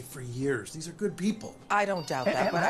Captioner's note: telephone ringing